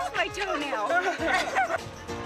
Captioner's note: laughter